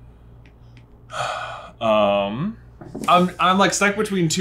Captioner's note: sighs